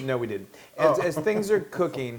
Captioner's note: laugh